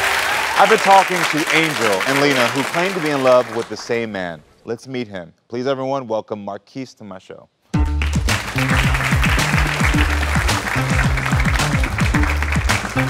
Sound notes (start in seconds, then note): 0.0 audience cheering and clapping; 7.7 upbeat music; 7.8 audience clapping